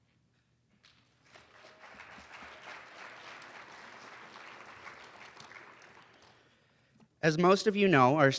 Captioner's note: applause